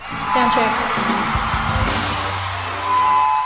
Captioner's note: people cheering and band playing; microphone feedback